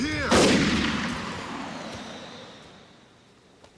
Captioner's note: gunshot